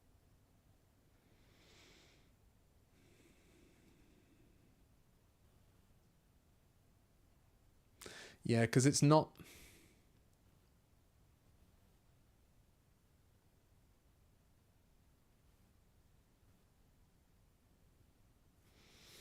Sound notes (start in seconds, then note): 14.1 silence